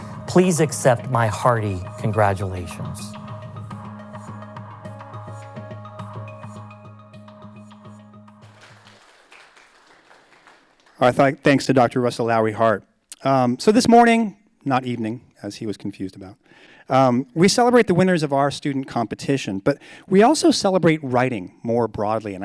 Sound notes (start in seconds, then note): 3.8 bright music; 8.4 audience applauds